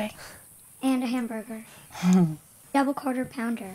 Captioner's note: Amy Chuckles